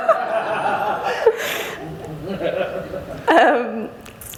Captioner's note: laughter